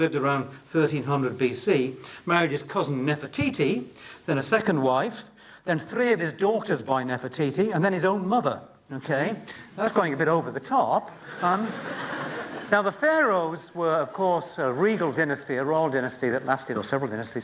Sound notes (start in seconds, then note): 11.2 laughter